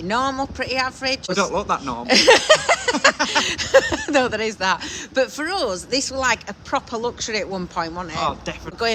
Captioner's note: laughing